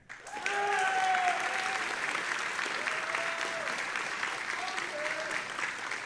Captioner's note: audience applauding and cheering